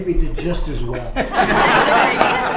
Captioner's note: laughter